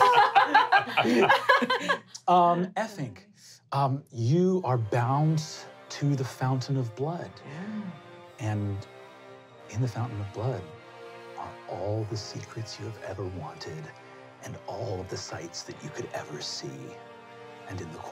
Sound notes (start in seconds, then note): 0.0 laughing